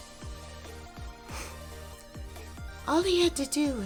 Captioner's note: sighs